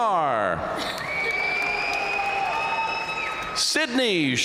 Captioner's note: audience cheering and applauding